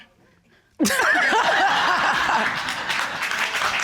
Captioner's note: laughter